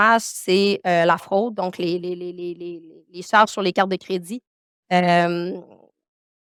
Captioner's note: continues speaking French